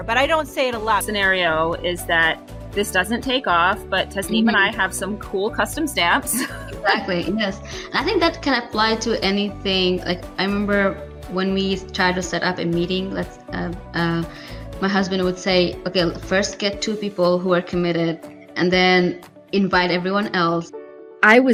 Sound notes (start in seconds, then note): 6.3 laughs